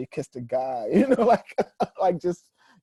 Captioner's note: laughing